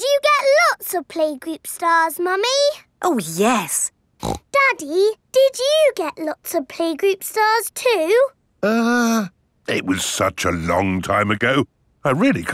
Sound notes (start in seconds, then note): 4.2 snorts